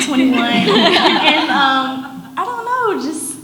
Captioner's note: audience laughs